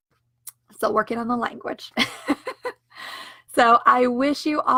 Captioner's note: laughs